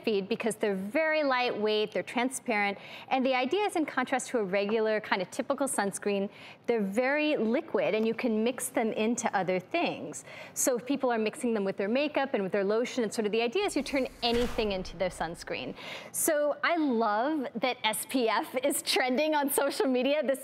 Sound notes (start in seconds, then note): none